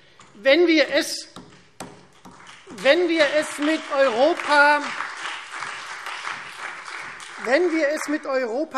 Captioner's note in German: Beifall Freie Demokraten, vereinzelt CDU und SPD